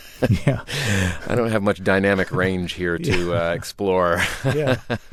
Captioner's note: laughter; laughter